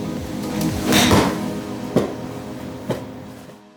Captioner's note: bang